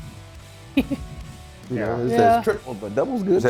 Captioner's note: laugh